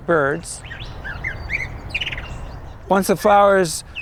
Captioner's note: birds calling